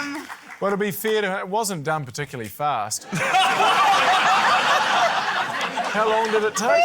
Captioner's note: laughter